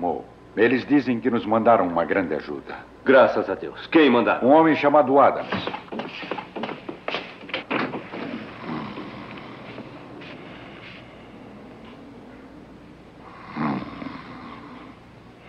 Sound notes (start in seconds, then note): 8.3 snoring